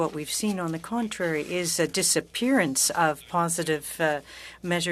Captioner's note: speaking French